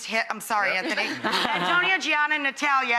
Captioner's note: family laughs